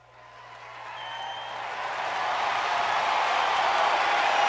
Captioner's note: crowd cheering and clapping